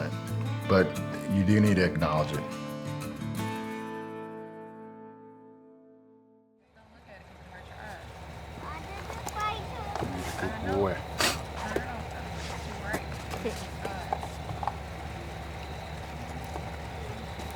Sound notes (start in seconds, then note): 3.5 music fades; 6.9 people talking in the background